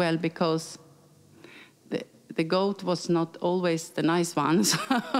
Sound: laughing

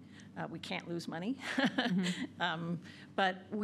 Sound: laughs

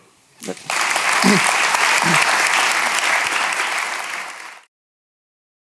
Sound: audience applauding

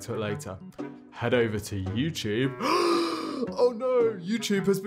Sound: gasping

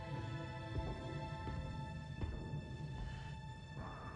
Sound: heavy footsteps approaching; mechanical breathing

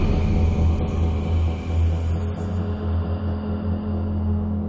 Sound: voices whispering

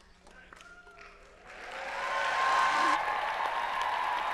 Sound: applause

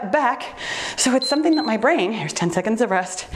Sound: timer beeps

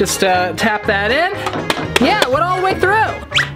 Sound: tapping

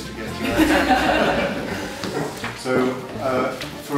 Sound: laughing

